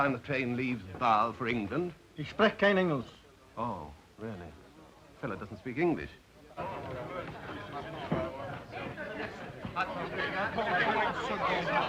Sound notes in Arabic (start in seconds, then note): 2.1 الرجل يتكلم الألمانية; 6.4 الضيوف يتذمرون بغضب; 10.5 الضيوف يصرخون بغضب